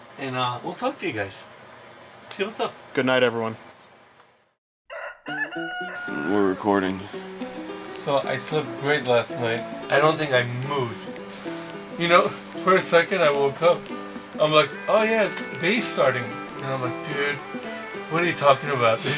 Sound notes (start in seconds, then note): 4.8 cock crowing